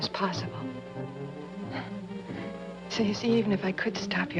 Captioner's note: sighs